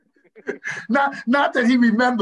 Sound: panelists laugh

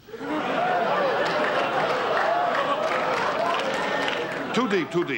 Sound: audience laughter

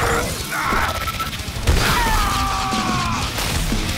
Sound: energy crackling; screams

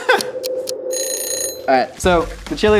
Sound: egg timer dinging

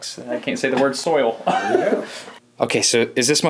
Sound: laughs

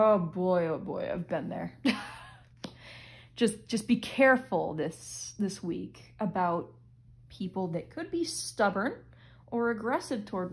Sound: chuckle

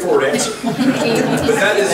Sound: group laughs

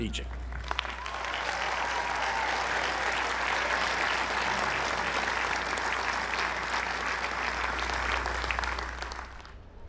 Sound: applause

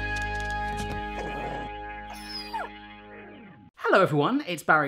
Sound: dog grumbles and squeals

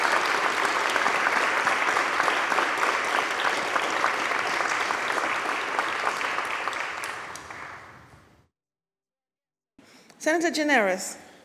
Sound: applause

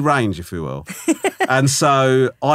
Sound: laughing

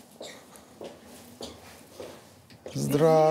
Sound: footsteps

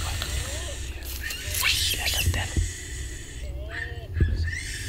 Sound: animals screeching

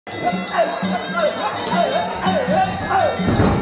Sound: yelling

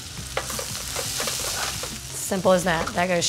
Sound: sizzling

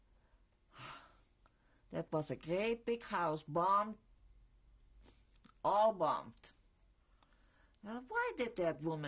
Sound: sighs

